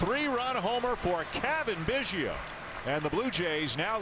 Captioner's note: applause